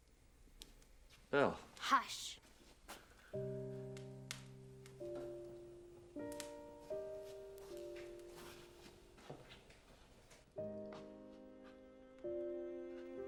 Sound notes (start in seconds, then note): none